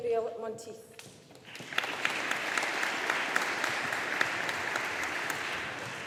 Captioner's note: audience applauding